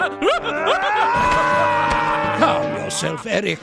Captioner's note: laughing; screaming